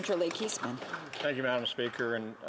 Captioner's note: speaking indigenous language